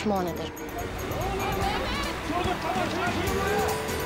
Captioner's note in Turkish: Bağrışma sesleri